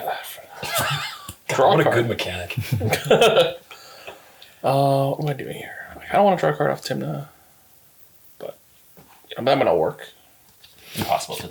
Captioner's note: laughs